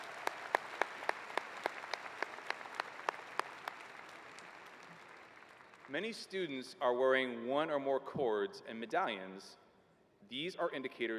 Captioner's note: applause